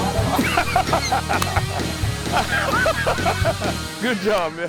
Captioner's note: laughs